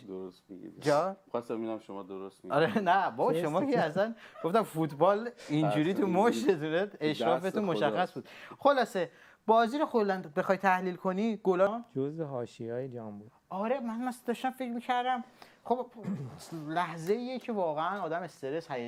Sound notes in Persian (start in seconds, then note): 16.0 گلویش را صاف می‌کند